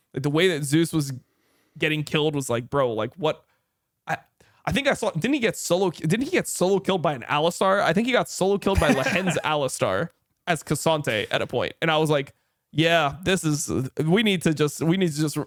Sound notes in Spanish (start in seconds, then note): 8.7 risas